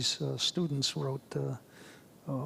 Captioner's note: none